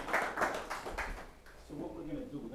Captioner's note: applause